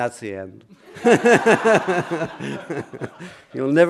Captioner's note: laughter